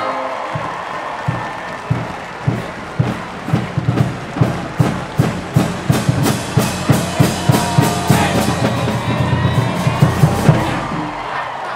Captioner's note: cheering